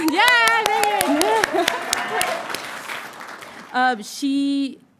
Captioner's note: audience cheering and applauding